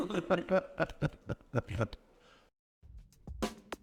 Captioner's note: laughter